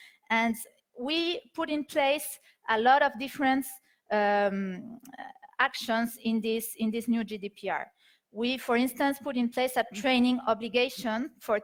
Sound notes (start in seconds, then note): none